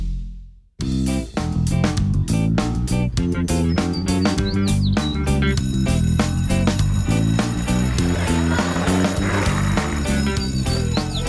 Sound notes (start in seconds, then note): 5.4 school bell ringing